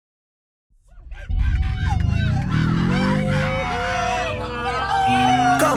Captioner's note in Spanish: Sonidos variopintos de una impenetrable jungla humana